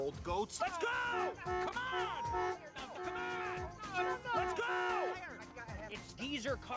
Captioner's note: horn honking